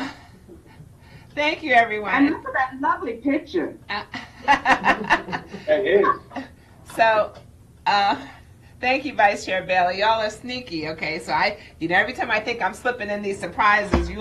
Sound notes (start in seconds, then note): 4.0 laughs